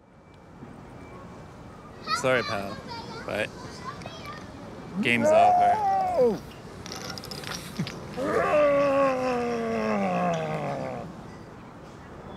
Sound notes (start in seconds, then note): 8.1 bear growls